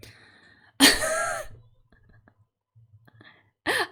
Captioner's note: laughs